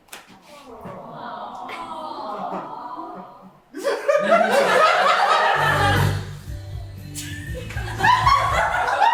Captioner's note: audience aww, then laughter